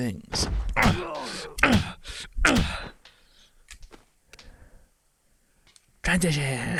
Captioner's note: grunting